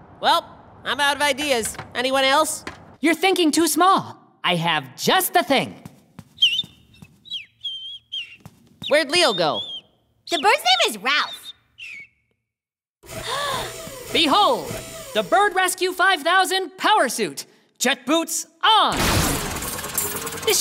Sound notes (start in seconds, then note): 6.3 bird chirps; 13.2 Mimi gasps